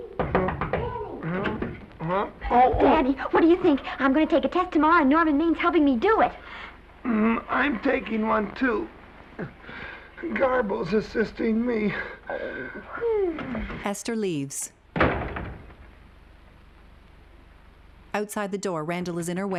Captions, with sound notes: Danny. Danny! -Huh? -Danny, what do you think? I'm going to take a test tomorrow and Norman Maine's helping me do it. I'm taking one, too. Garbo's assisting me. -Oh! -[Danny sighing wearily] [door slamming]